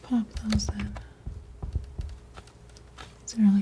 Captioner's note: scratching